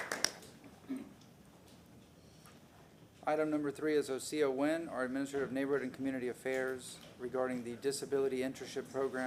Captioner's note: applause